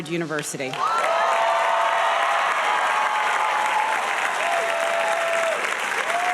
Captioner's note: audience cheering and applauding